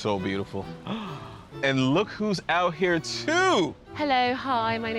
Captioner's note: gasps